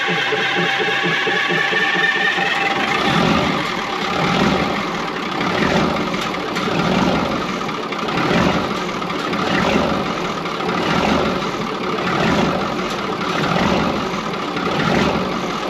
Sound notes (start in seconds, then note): 0.0 engine starts; 0.1 engine turning over